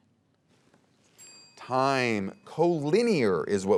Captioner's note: bell dings